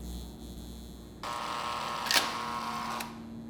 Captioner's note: machine noise